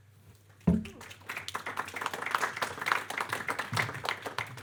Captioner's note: audience clapping